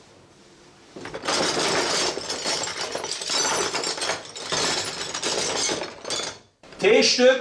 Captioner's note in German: lautes Geraschel von Bauteilen